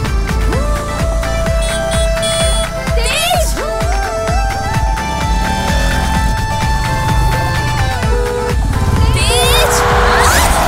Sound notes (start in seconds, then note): 1.0 honking; 9.8 horn blares